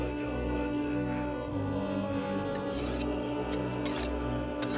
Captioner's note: knife Blades Sharpening